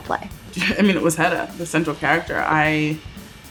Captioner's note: chuckles